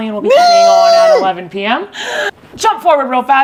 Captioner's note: gasps